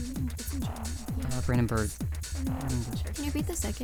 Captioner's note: wispering